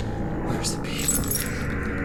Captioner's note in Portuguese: Jangling